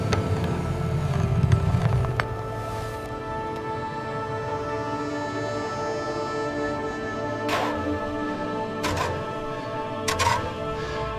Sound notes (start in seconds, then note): 3.0 dramatic music; 3.0 footsteps